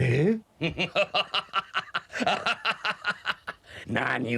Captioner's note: laughter